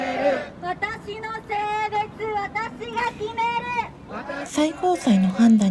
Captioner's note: chanting